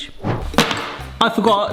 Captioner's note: trivet whacks down